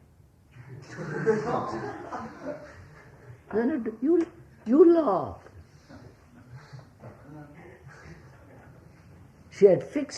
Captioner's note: laughter